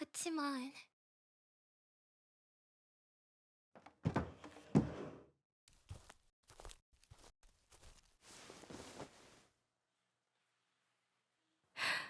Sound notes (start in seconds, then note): 4.0 자리에서 일어나는 소리; 5.7 걸어가는 소리; 7.6 품에 안는 소리